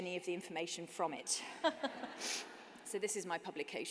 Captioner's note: laughter